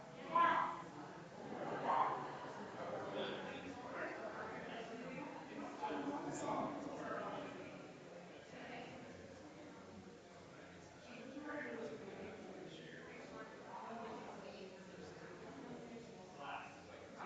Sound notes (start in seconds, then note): 8.9 people chattering distantly continues